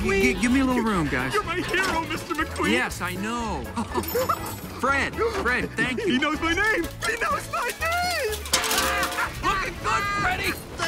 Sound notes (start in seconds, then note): 3.6 laughs